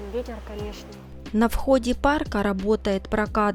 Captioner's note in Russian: закадровый голос